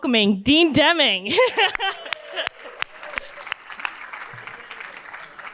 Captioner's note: cheers, applause